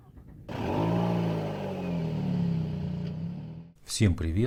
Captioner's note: motor sound